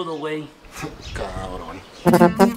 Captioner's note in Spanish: ríe